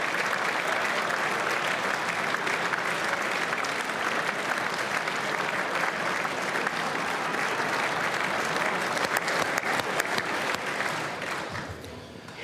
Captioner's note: applause; cheers